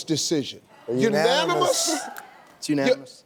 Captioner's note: audience cheering